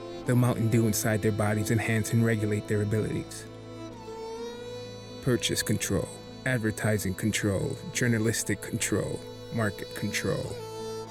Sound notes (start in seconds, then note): none